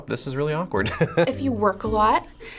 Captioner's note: laughing